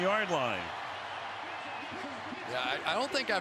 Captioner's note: cheers, applause